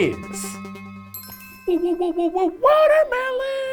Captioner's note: light chime